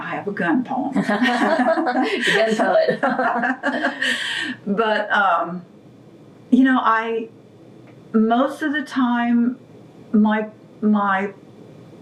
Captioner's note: laughter